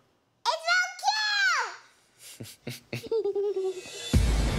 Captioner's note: laughs